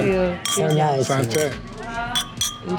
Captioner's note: clinking